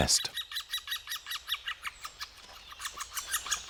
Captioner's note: birds tweeting